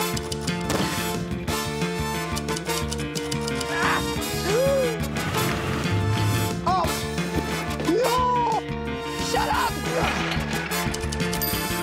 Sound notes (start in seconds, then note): 2.5 typewriter clacks; 3.3 gasps